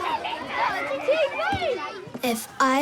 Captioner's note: children chatter